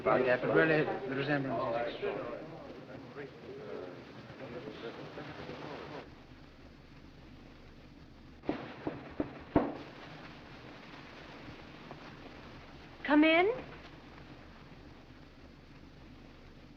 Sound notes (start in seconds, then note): none